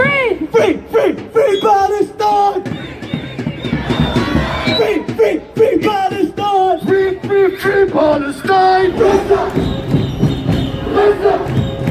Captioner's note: chant